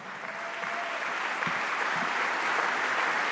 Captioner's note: applause